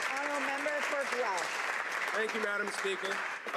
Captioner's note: some Applause